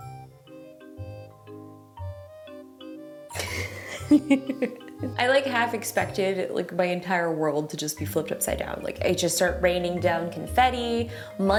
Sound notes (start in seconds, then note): 3.3 laughing